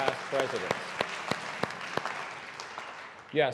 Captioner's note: applause